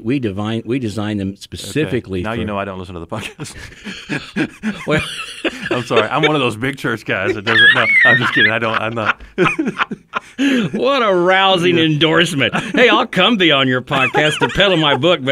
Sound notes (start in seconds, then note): 4.2 both laugh